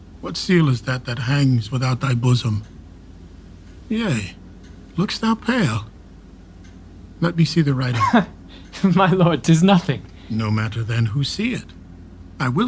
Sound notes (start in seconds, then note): 8.6 laughing